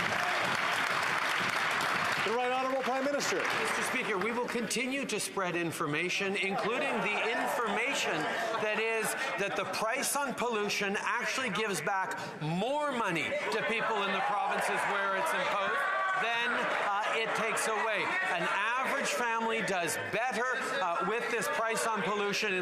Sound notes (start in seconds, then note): 4.0 some Applause